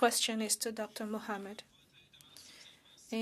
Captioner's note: speaking French